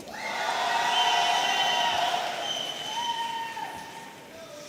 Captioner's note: audience cheering